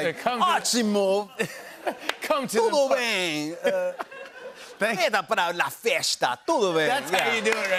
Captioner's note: speaking foreign language